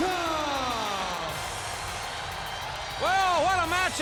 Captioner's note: audience cheers